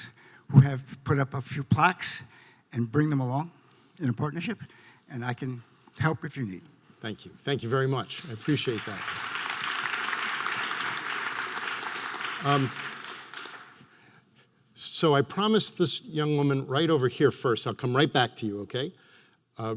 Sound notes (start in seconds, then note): 8.0 audience applause